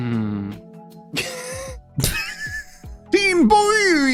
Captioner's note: laughing